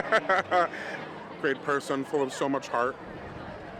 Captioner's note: laughing